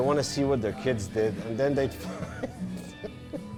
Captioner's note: laughs